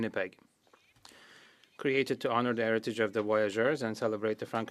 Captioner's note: speaking French